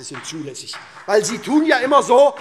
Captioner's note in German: Beifall